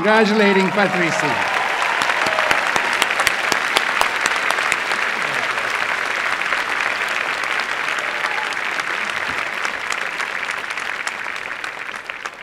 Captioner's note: applause